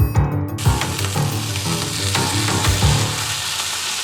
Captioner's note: sizzling sounds